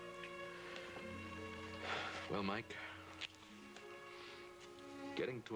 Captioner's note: sighs